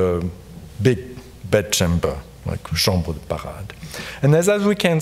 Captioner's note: speaking in French